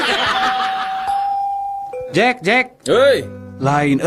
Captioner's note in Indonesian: tertawa